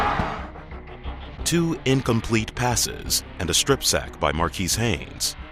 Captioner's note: voiceover